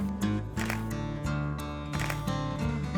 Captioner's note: camera clicks; camera clicking